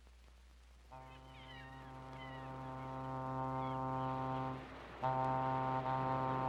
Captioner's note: foghorn blows; seagulls squawk; fog horn blows; sound of ocean